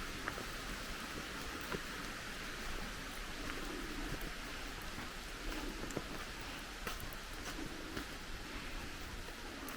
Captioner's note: long waterfall